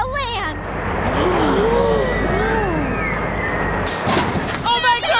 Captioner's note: gasping; screaming and cheering